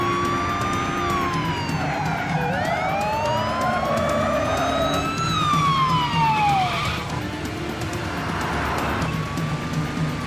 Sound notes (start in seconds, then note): 2.2 tires screeching; 5.3 sirens wailing